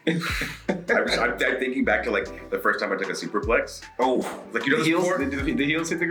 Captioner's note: laugh